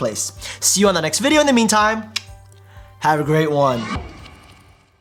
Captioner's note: clicks tongue